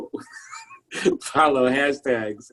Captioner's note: laughs